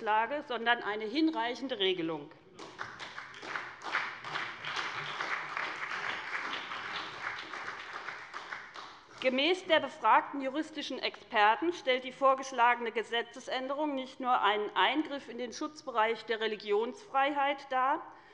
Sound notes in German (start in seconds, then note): 2.5 Beifall bei der SPD und dem BÜNDNIS 90/DIE GRÜNEN